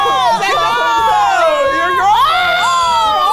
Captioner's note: everyone screaming